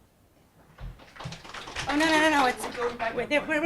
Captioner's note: audience applauds